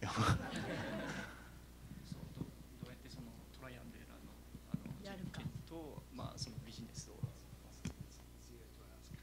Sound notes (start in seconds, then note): 0.1 laughter; 2.2 non-english speech